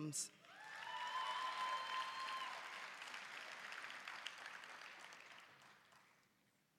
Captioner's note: applause, cheering